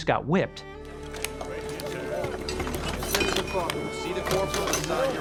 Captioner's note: chatter